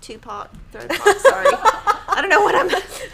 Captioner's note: laughing